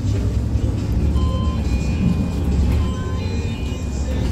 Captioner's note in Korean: 하차벨 소리